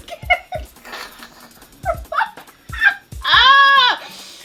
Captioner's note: nervous laugh; laughs; sharp inhale